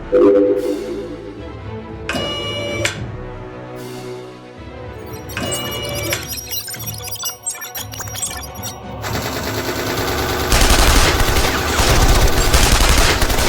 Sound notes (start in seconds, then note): 0.1 machine whirring; 5.1 machine blipping; 10.4 guns blasting; 10.5 cannon firing